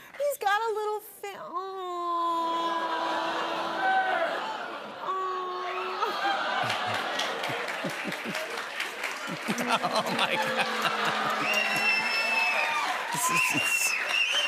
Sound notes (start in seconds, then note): 2.3 audience exclaiming; 9.7 laughing; 12.0 cheers and applause